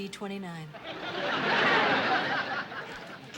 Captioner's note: laughter